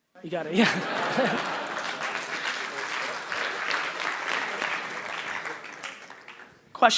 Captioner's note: audience applause